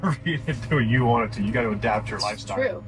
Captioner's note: laughs